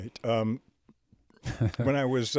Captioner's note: chuckles